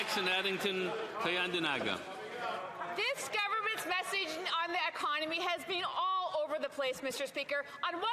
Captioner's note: some Applause